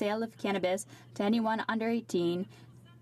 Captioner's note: speaking French